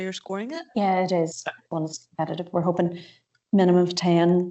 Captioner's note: audio distorts 59.37